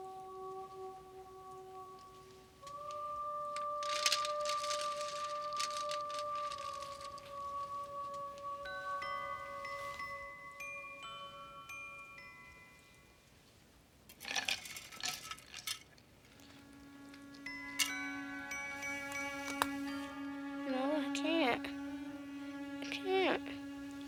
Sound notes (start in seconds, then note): 0.1 gentle orchestral music; 5.5 ice cubes clanking; 8.5 gentle orchestral music; 15.8 ice cubes clanking; 20.0 gentle orchestral music